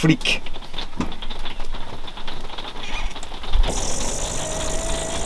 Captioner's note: sounds of big raindrops